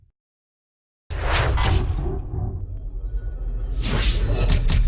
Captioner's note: whooshs and bangs